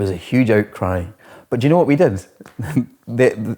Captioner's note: laughs